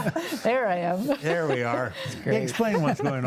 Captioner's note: panelists laughing